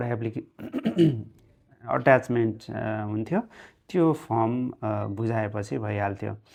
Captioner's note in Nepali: घाँटी सफा गरेको आवाज